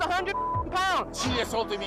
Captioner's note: beep